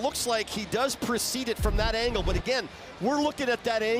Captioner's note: booing